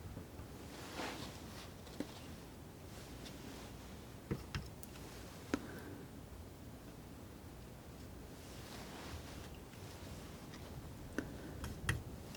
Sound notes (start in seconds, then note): 0.5 scissors snipping